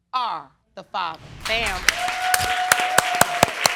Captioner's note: audience cheering